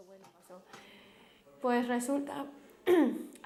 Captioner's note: clears throat